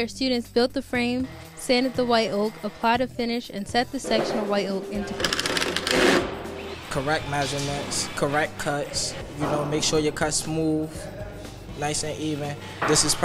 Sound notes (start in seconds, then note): 5.2 drilling